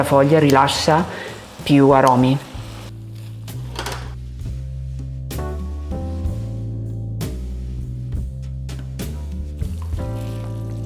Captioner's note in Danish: taler italiensk